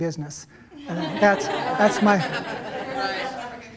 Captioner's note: laughter